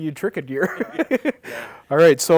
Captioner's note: laughing